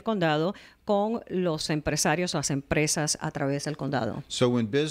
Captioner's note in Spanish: Hablando ingl\s